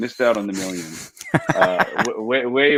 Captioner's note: laughs